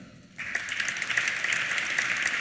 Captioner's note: applause